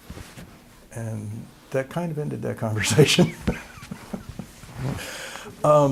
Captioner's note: laughter